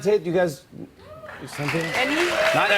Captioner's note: cheers and applause